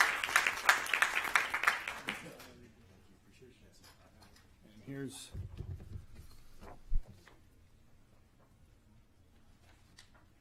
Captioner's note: applause